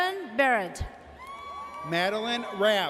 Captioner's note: audience cheers